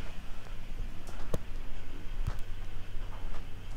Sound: engine rumbles

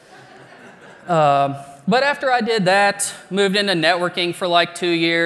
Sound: laughter

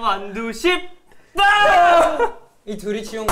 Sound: laughing

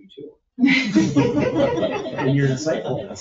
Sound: people chuckle

